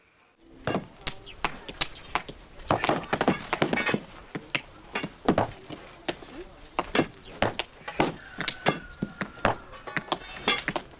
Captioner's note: Coup de marteau